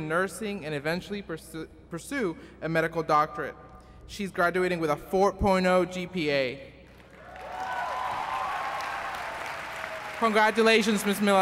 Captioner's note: applause